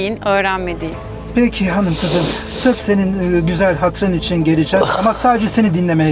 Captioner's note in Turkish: homurdanır